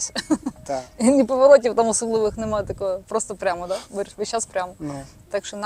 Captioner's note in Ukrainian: сопіння